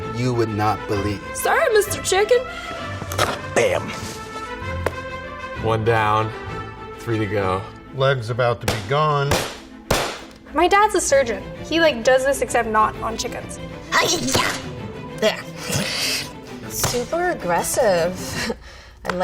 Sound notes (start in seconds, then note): 3.1 bone crunches; 4.5 chicken leg slaps board; 9.3 cleaver thuds against bone; 15.2 laughs; 18.2 chuckles